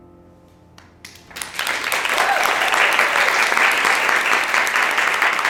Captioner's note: clapping and cheering